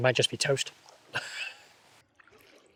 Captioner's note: laughs